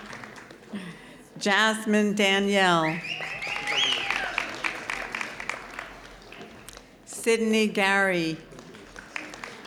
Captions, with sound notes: Jasmine Daniel (audience whistling) Sydney Garry